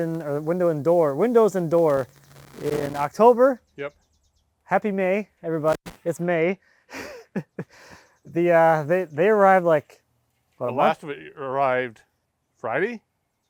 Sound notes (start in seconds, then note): 6.9 chuckles